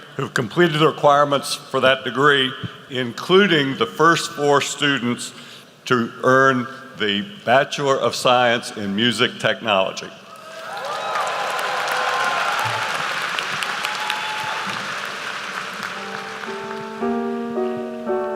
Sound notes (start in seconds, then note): 10.4 applause; 15.9 light music